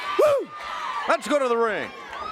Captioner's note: crowd cheering